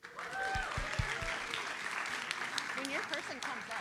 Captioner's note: audience applauds